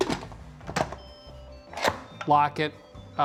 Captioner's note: cooker chimes